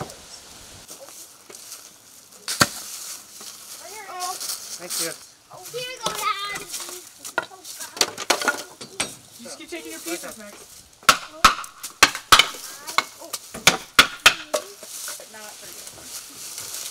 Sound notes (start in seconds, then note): 11.2 hammer tapping